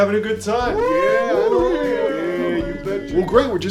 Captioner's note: boys cheer